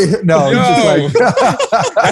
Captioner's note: laughter